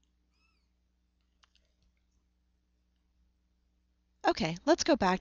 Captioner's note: pause